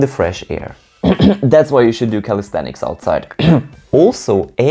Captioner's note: cough